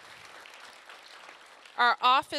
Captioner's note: applause